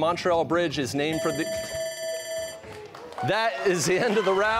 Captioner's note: bell ringing